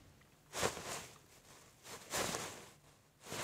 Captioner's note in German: Rascheln